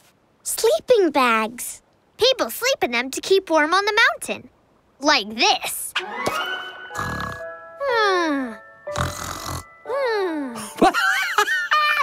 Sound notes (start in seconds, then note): 6.3 snoring; 10.6 laughing